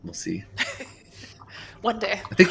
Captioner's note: laughs